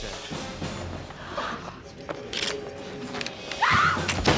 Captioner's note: gasping; scream